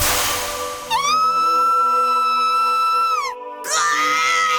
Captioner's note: shriek; pained cry